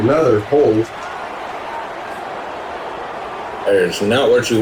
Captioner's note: crowd Noises